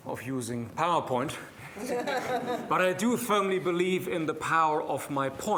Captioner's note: laughter